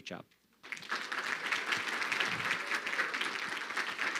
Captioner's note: crowd clapping